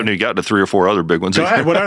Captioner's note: laughs